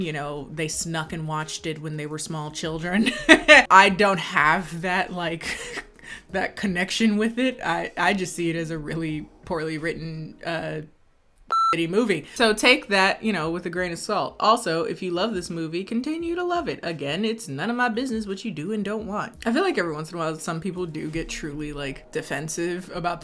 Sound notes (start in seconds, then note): 3.0 laughing; 11.5 beep